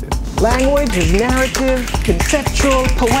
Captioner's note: fingers snapping